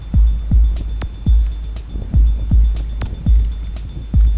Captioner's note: wind rushing